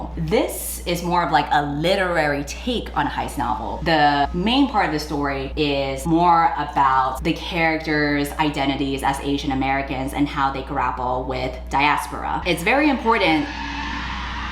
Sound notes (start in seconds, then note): 12.9 sound of car screeching outside